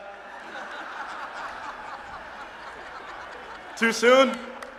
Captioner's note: laughter